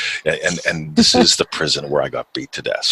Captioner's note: chuckles